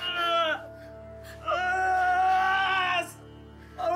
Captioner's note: groans; tommy screams